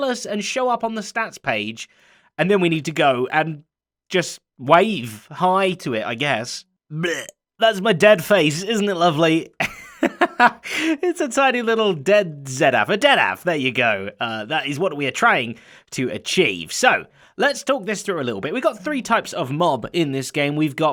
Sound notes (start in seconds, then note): 9.5 laughs